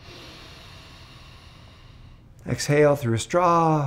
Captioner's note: inhaling